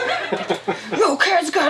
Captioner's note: laughs